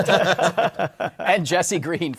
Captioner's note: laughter